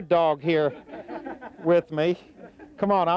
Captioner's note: laughing